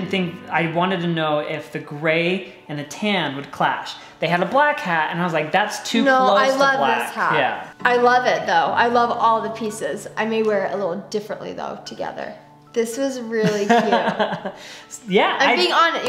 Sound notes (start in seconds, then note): 13.4 laughs